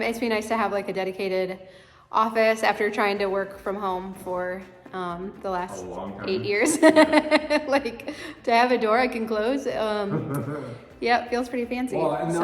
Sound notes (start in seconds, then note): 6.2 laughs; 10.0 chuckles